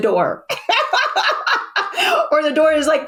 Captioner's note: laughs